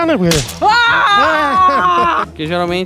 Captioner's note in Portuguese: grita; homem ri